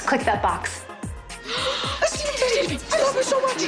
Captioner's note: gasping